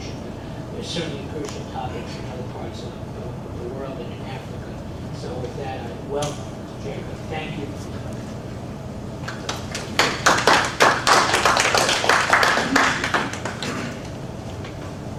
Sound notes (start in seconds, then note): 9.2 applause